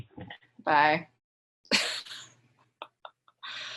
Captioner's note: laughs